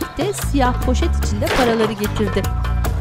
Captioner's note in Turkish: Kapı kapanma sesi